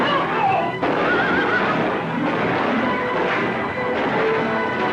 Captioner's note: screams; horse neighs